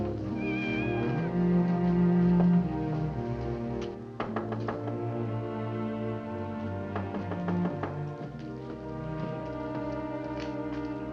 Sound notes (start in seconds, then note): 0.3 cat meows; 4.2 knocking on door; 6.9 knocking on door